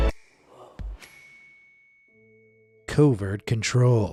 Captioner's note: magical pinging